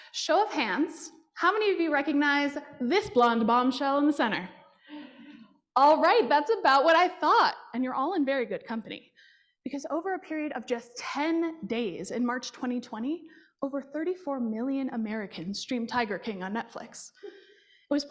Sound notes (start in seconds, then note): none